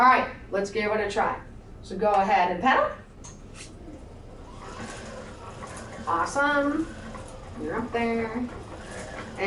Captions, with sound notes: - All right, let's give it a try. So go ahead and pedal. (pedals cycling) Awesome. You're up there.